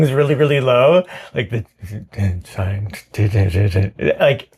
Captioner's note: bad attempt at speaking German